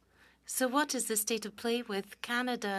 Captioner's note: speaking French